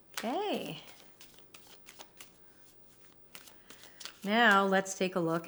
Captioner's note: cards shuffling